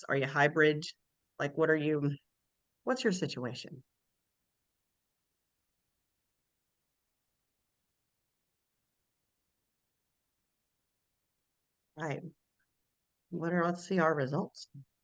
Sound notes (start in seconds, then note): none